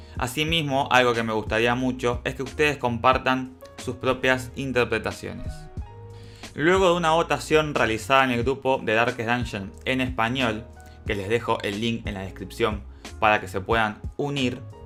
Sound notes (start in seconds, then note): 9.8 in Spanish